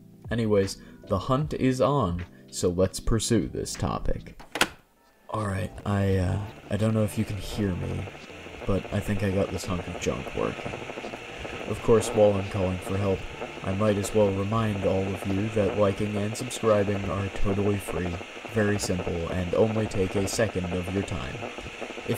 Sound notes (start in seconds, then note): 3.9 heavy static